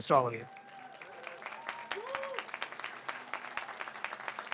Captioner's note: audience applauds